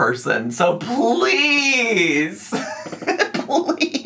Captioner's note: laughs